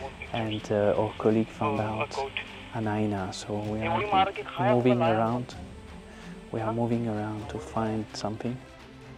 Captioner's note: background chatter in Hindi